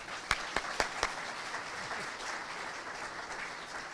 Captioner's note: audience applauding